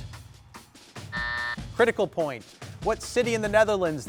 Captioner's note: buzzer rings